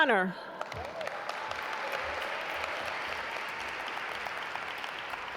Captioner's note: audience applaud